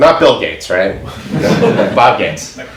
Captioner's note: audience laughs